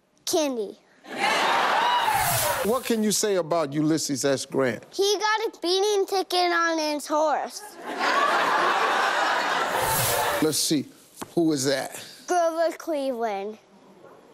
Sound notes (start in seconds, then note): 1.1 audience cheers and applauds; 7.7 audience laughter